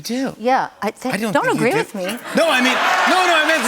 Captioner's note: laughter